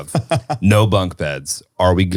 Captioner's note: laughing